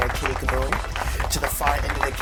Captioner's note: audience clapping